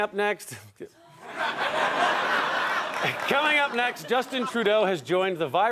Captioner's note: audience laughter; laughter